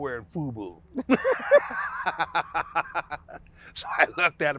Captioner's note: both laughing